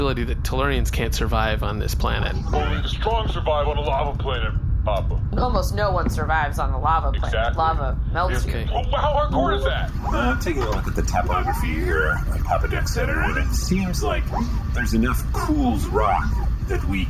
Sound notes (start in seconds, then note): 11.0 beeps